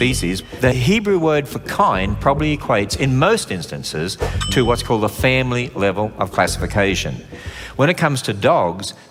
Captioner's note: kindly